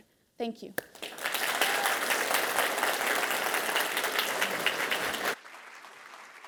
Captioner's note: attendees cheering & applauding